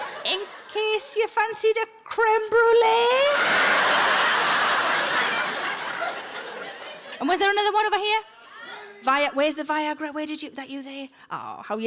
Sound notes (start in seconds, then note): 3.4 audience guffaws; 8.6 people shouting